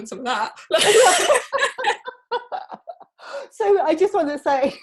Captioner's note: both laughing